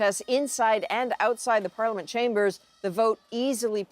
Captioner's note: speaking alternate language